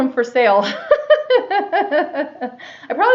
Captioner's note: laughs